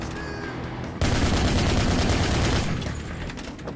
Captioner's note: gunshots fire; gunshots